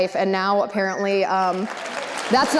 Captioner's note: audience applause